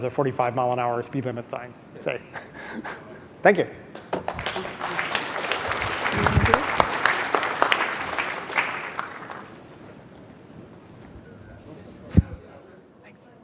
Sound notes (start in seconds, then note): 2.2 laughs; 3.9 audience clapping